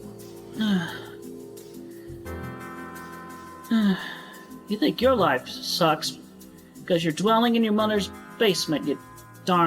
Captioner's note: sigh again; sigh